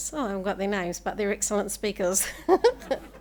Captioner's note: chuckles; everybody laughing